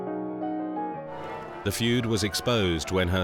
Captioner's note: bells chiming